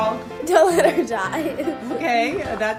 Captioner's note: laughing